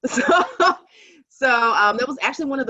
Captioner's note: laughing